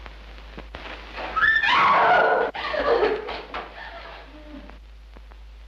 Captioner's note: Madeline screams